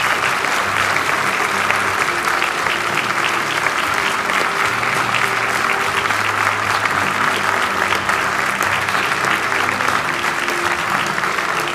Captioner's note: applause